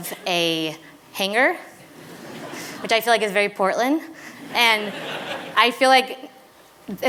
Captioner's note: laughter